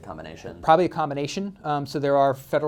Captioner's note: voiceover